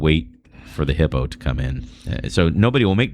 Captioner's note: uh